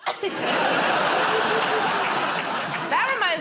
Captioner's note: laughter